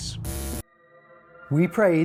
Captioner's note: static